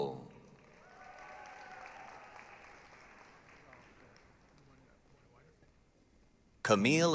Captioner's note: applause, cheering